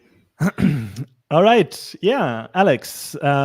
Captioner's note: clears throat